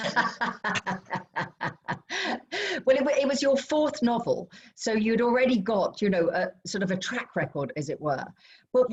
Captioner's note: laughter